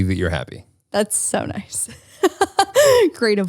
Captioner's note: laughs